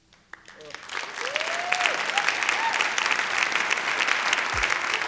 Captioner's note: applause